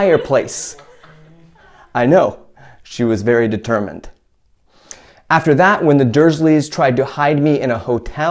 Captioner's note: chuckle